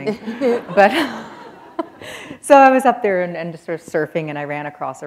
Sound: chuckle

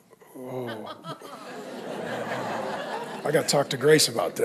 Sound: congregation laughing

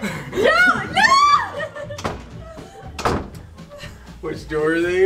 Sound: doors clicking shut

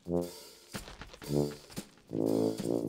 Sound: rustling

